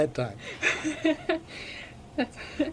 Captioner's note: BOTH laugh